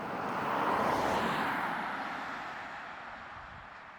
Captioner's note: car passing